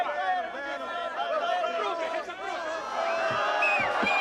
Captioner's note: taunting shouts